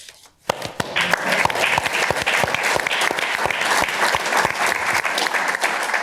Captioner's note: applause